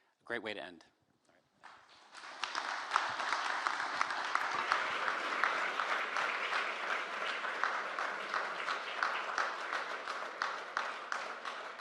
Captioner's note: applause